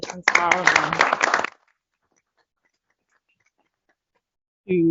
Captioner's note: applause